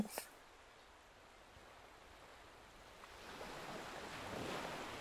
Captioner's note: sound of waves